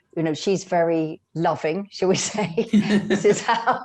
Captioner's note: laughs